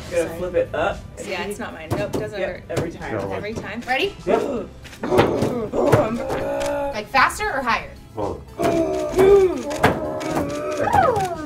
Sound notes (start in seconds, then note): 5.1 growls; 8.5 growls